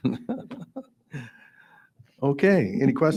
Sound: laughs

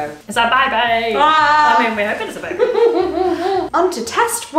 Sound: laughing

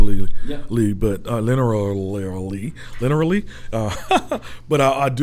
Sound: chuckles

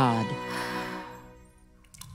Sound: gasps

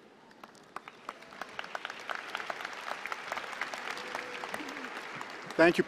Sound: applause

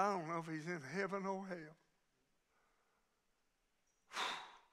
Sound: huffs

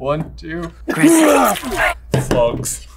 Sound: Ron vomits

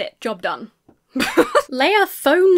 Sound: laughs

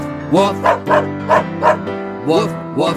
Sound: dog barking

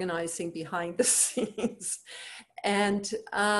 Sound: chuckles

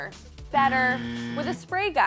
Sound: buzzer ringing

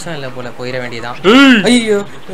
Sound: kokila husband roars

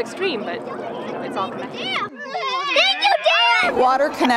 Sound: sound of kids playing

